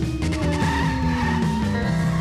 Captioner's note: tires squealing